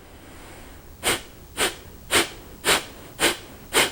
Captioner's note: breathing